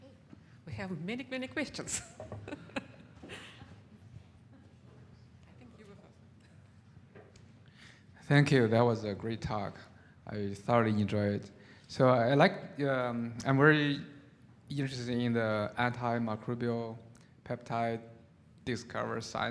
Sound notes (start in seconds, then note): 2.4 chuckles